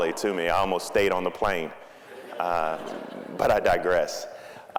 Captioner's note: audience laughing